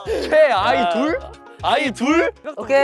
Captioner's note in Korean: 합창 항의